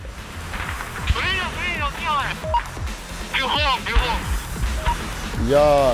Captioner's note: voice over radio